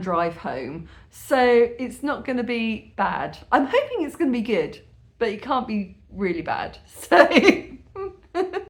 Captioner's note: laughing